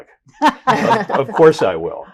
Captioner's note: all laughing